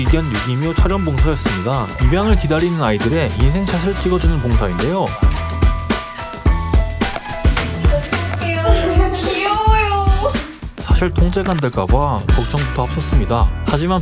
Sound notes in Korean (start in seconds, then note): 6.1 찰칵